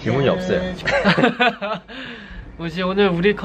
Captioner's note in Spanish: Jajaja